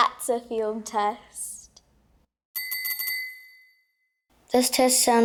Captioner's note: ding, Ding, Ding